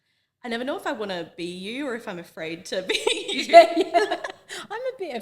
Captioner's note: laughs